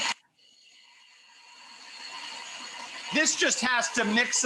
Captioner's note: food processor whirring